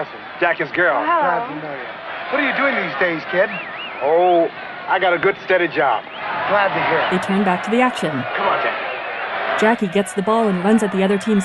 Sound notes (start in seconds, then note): 8.7 crowd cheering